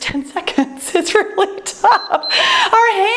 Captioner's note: laughs; timer beeps